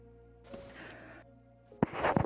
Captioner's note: soft inhale